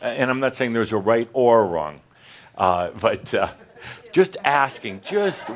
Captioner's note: some chuckles